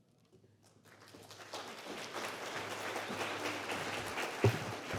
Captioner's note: applause